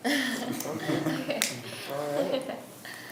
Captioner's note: laughs